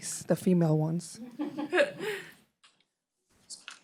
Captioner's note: laughter